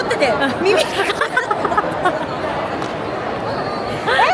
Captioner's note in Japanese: 笑い